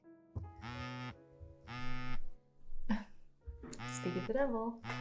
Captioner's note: phone buzzing